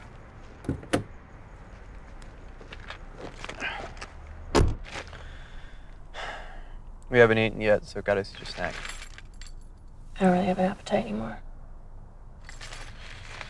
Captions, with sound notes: (door opens) (door closes) - We haven't eaten yet, so I got us each a snack. - I don't really have an appetite anymore.